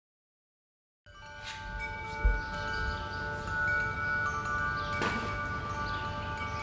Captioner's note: wind chimes ringing; birds chirping